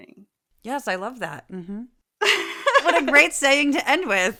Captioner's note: laugh